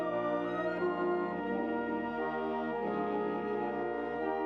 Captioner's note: none